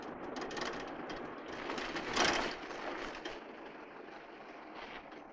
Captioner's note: car engine rattling